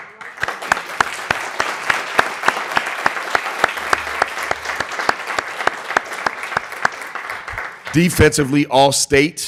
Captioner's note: applause